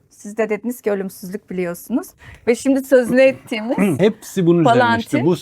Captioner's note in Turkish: boğazını temizler